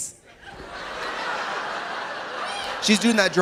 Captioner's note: audience laughing